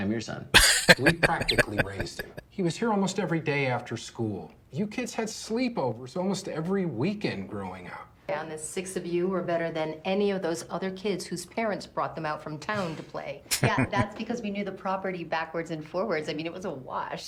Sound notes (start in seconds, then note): 0.5 laughing; 13.5 chuckling